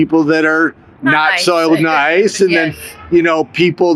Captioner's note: chuckles